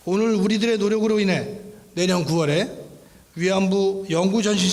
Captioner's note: speaking in foreign language